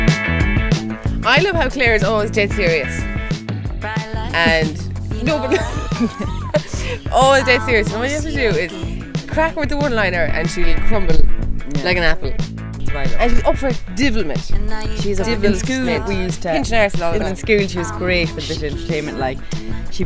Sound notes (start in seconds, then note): 5.2 laughing